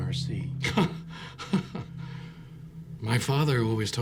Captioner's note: Chuck laughs